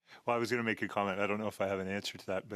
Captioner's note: speaking in French